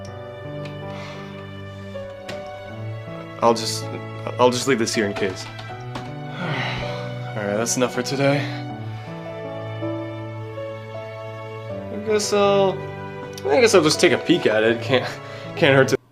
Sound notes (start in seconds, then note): 6.3 sighs from exhaustion